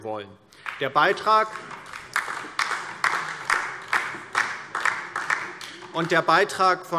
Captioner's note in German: Beifall DIE LINKE